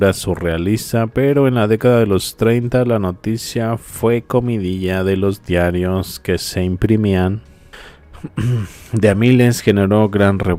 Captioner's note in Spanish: carraspeo